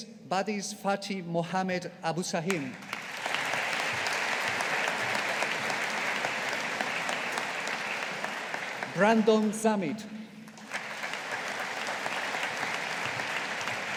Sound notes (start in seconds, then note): 2.7 audience applauding